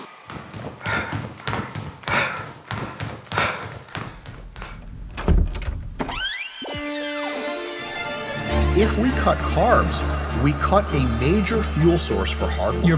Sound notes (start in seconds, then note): 0.0 footsteps clopping; 1.1 narrator exhaling; 5.1 door thudding and creaking; 7.8 classical music